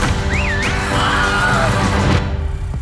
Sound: man whistles; men scream

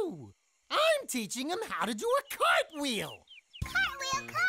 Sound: none

